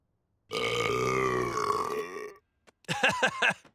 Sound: belches

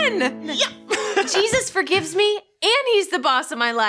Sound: giggles

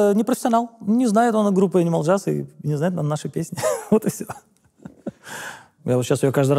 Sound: laughs

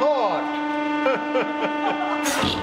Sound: chortles

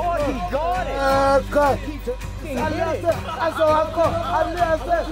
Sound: men chattering excitedly

